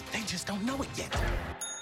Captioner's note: ding